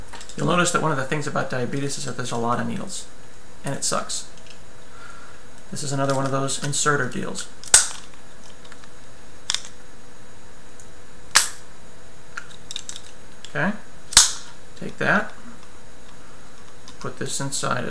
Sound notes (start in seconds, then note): 7.7 snap; 8.9 pop